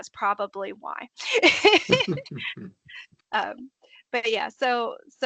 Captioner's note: laughing